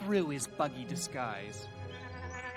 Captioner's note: buzzing noise